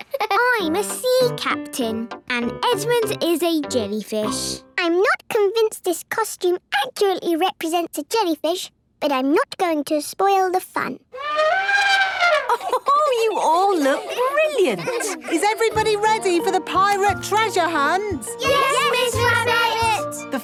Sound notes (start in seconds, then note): 11.1 trumpeting; 11.2 Mummy Pig laughing